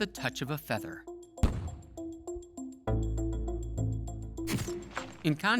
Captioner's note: muffled puff